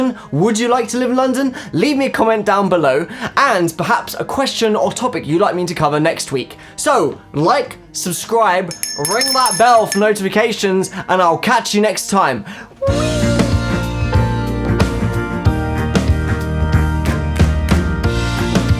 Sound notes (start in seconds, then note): 8.7 ringing bell